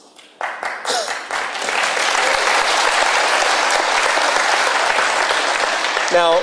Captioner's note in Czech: potlesk